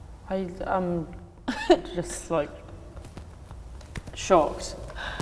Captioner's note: laughs